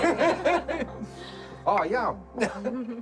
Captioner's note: laughs